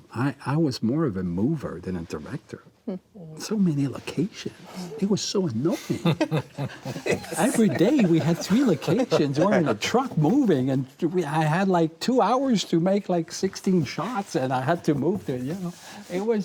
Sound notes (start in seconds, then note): 5.7 all chuckles